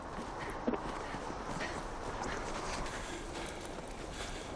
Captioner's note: panting